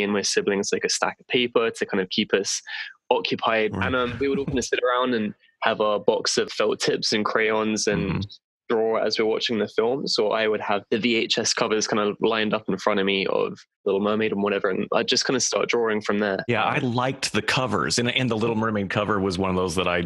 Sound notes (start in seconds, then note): 3.8 laughter